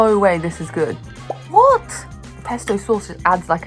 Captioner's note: bubble pops